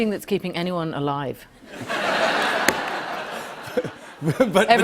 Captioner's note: laughter